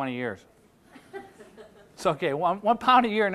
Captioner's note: audience laughing